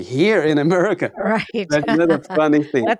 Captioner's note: laughs